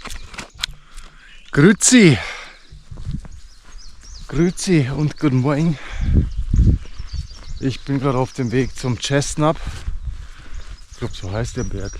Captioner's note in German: Schweizer Dialekt